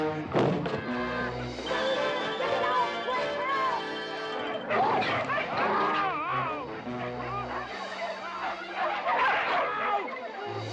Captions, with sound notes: Ah! Help, someone! Get me out, quick! Help! [yelling] Ow!